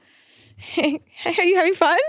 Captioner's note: laughing